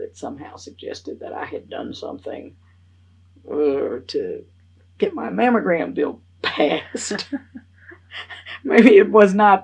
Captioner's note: laughs